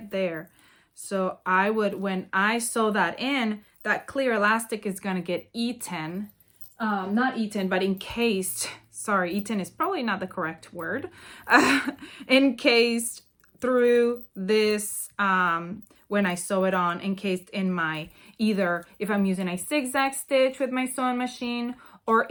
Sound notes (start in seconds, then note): 11.5 laughs